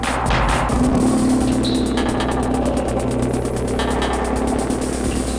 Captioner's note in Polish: Niskie, szybko oscylujące dudnienie